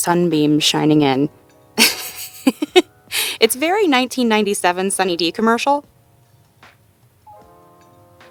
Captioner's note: laughs